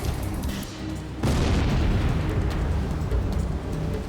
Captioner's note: explosion booming